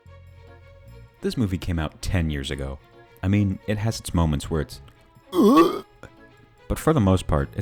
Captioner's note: retch